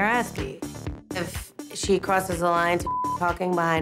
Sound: beep

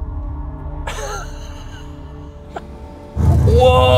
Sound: chuckling

